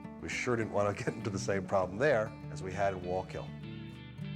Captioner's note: chuckles